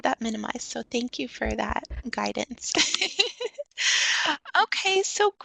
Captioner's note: chuckles